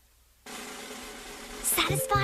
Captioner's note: whispering